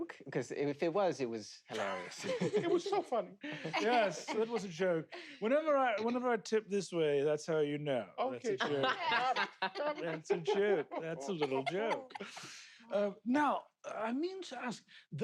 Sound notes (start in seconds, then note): 8.4 laugh